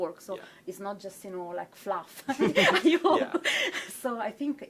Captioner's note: laughs